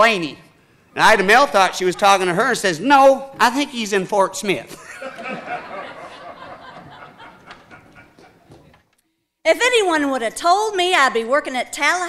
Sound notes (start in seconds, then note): 4.7 audience laughing